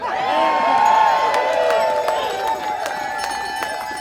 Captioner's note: audience cheering